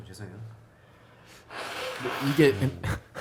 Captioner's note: loud nose blow